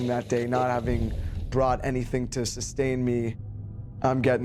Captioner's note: voiceover